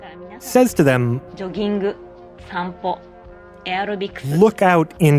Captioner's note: speaking Japanese